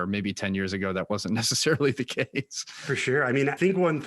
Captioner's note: laughs